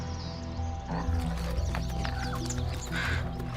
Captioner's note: bear grunts; splashes in puddles